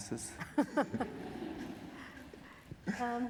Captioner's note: laughter